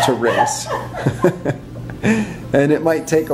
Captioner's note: laughter